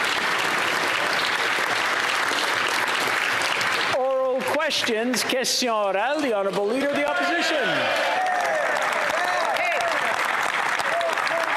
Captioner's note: applause